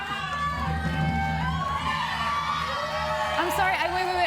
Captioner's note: audience shouts